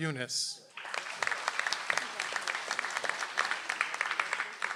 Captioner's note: audience applauds